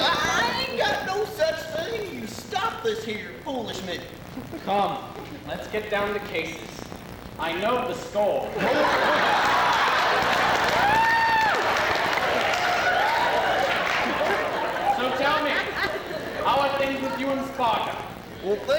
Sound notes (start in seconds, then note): 8.5 laughter